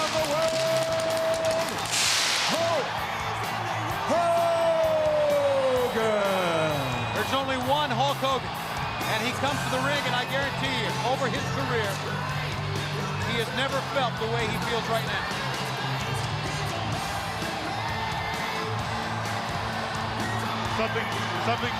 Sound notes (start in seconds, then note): 7.4 crowd cheering